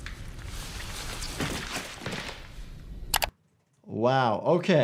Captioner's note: body thuds